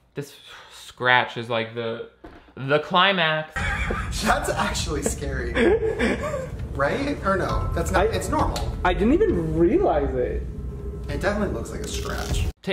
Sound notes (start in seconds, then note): 3.5 laughs